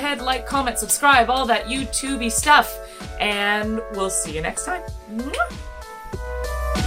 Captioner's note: kiss